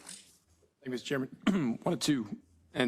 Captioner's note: cough